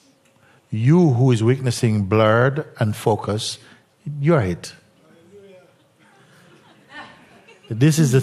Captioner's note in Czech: smích